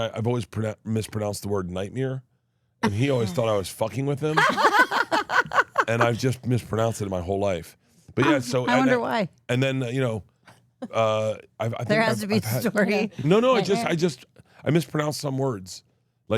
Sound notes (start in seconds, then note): 4.3 laugh